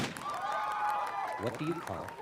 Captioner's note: gunshot firing; cheering